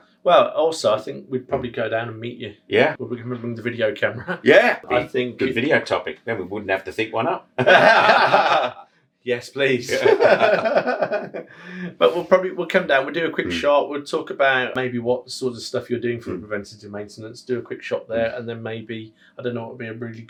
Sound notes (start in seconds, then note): 8.3 laughing